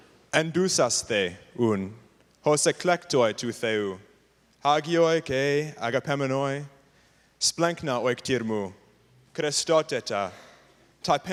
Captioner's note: non-english speech